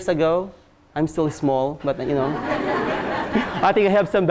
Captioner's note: class laughs